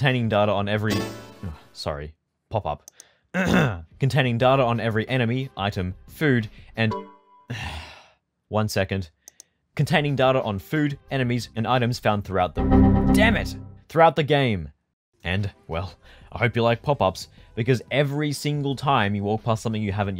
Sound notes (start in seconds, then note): 3.3 ahem; 7.5 sigh